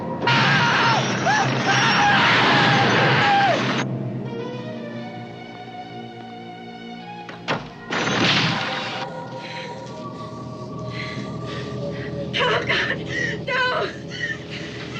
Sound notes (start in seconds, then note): 1.7 man screaming; 7.3 door clicks; 7.9 crash, splat